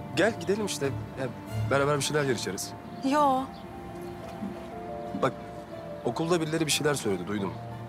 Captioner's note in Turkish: none